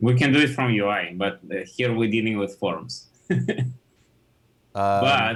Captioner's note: laughs